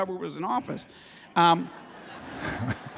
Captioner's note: laughter